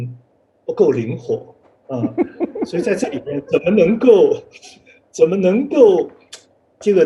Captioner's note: laughs